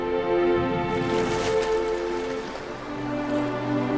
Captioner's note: soft dramatic music; water splashing; waves lapping